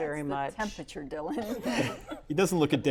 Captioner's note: laughter